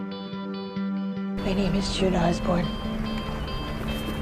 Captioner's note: voiceover